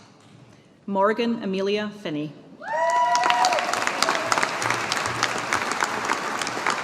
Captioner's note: audience applauding